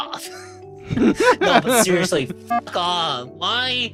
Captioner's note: laughing